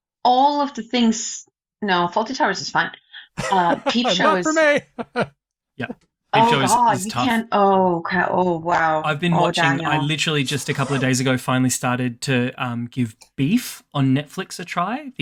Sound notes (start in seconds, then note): 3.2 laughs